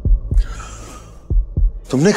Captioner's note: Gasps